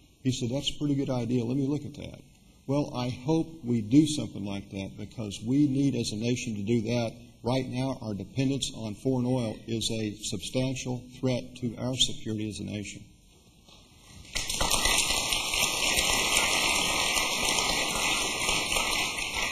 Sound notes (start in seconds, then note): 16.8 applause